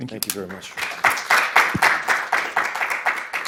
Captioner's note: attendees applauding